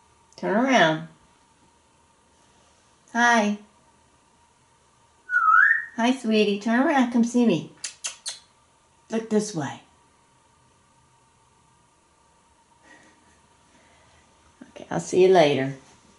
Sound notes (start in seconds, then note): 5.2 whistling